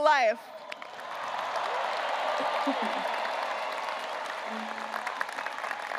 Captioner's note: graduates cheering and applauding